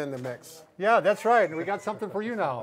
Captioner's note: laughing